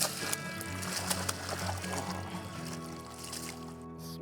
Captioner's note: water splashing